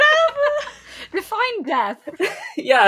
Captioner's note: laughing; laughing